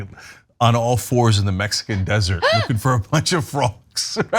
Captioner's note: laugh